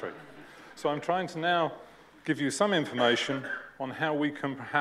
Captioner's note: laughter